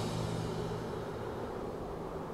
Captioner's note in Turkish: Rüzgâr esiyor